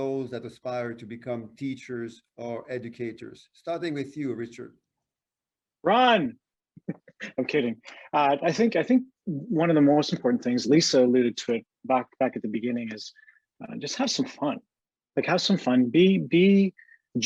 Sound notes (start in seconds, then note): 6.9 laughs